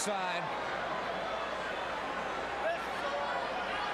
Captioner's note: crowd chattering